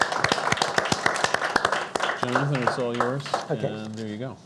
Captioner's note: audience clapping